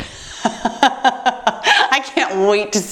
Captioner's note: laughs